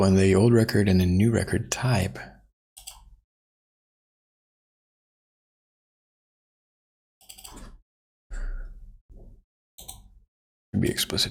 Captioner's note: blank Audio